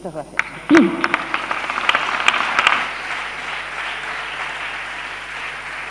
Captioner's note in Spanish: Aplausos